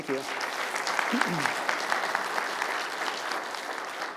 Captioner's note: applause